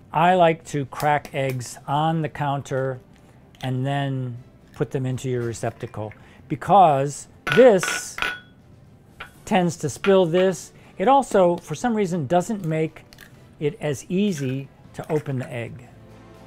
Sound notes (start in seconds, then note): 7.4 glass clinking; 16.3 light classical music continues